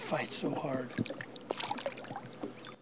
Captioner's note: splash